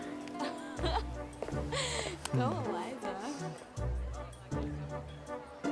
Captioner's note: laughs; whimsical music